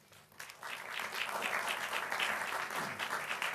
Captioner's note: applause